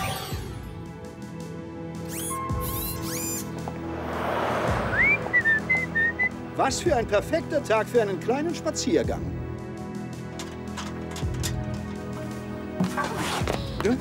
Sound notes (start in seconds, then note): 2.0 whirring; 4.8 whistling